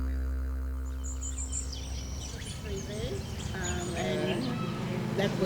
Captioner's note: birds chirping